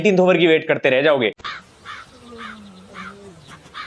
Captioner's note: crows cawing